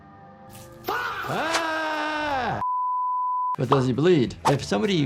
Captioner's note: doctor yelling